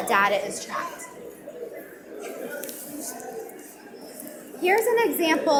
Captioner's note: audience mumbling